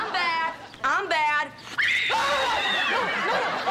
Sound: screams shrilly

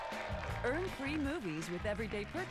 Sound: crowd cheering

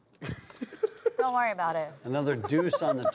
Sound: laughing

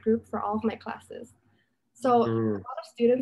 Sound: vocalizes in agreement

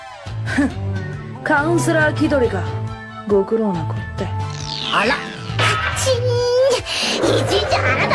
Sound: angry sound

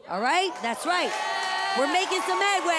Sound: audience cheers

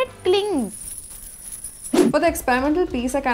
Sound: necklace clinks

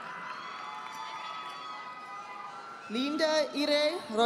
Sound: audience applauding

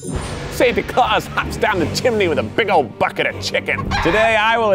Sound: chicken clucks

